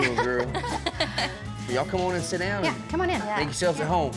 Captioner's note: everyone laughing